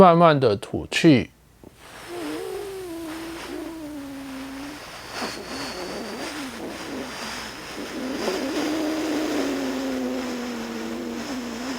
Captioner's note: inhale